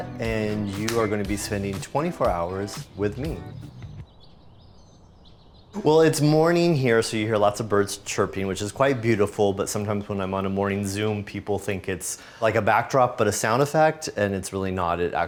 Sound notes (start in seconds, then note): 4.2 birds chirping